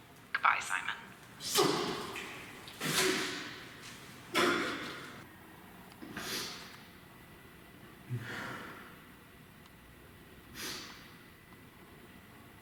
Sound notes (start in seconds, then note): 4.3 sobs